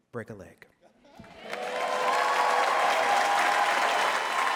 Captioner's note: applause